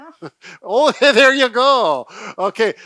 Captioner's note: laughs